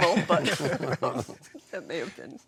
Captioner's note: all laughing